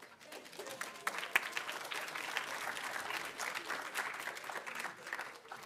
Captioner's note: audience applauding